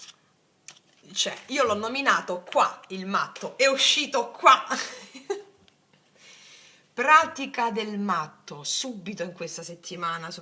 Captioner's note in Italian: risate